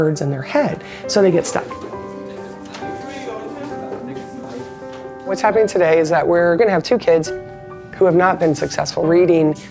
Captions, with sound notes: in their head, so they get stuck. [ CLASSROOM CHATTER ] What's happening today is that we're gonna have two kids who have not been successful reading,